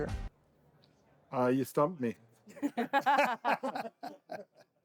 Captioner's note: laughter